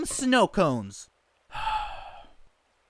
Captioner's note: sigh